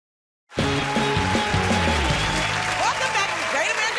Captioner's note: cheers and applause